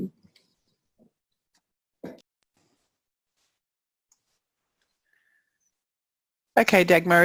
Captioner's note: pause